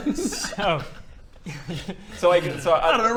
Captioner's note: laughs